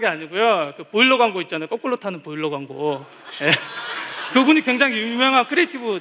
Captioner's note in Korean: 웃음